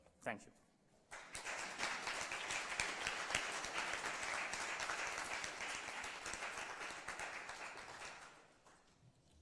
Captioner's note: applause